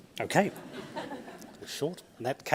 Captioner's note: audience laughs